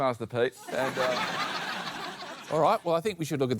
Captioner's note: laughter